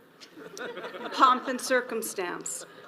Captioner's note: audience laughs